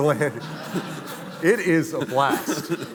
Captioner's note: audience laughing